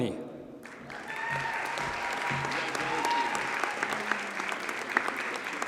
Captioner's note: audience cheers and applauds